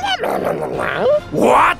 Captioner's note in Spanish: ruidos de trasgo